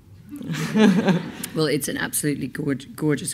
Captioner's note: laughs